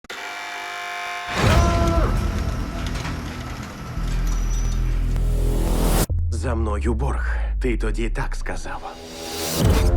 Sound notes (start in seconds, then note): 0.0 buzzer buzzes; 1.4 tense music playing